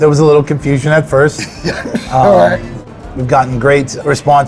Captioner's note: laughs